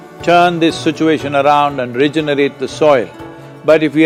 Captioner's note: speaks in Italian – not transcribed